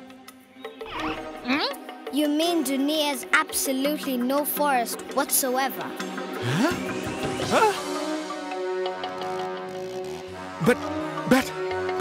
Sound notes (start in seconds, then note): 8.4 chainsaw buzzing